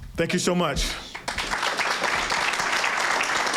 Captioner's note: cheers and applause